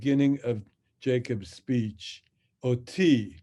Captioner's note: speaks in Hebrew